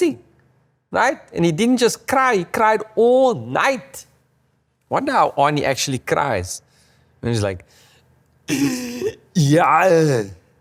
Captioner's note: makes Arnie crying sound